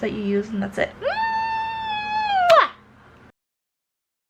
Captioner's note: kissing noise